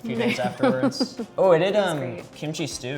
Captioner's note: laughs